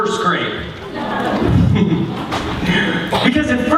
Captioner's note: laughter